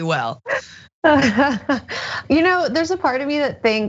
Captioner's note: laugh